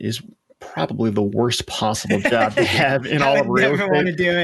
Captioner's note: laughing